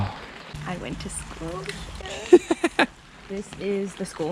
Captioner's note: laughs